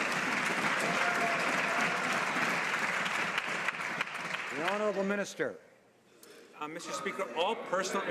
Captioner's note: some Applause